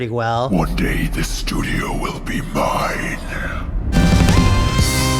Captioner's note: demon skull voice